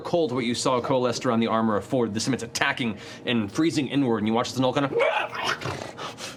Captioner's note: gnoll pain sounds